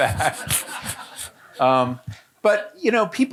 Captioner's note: audience laughing